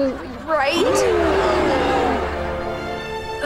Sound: gasping

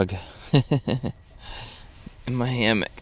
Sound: laughs

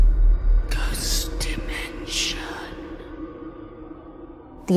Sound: eerie music; ghostly Voice

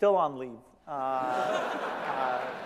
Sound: laughter

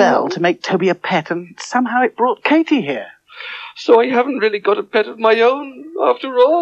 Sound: sobbing

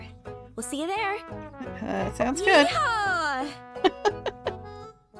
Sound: laughs

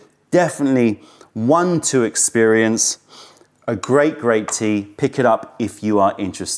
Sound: sips tea

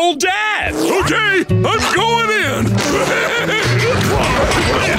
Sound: laughing

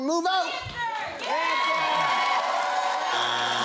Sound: cheering/applause; buzzer sounds

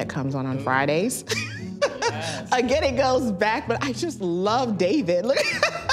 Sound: laughs; laughs

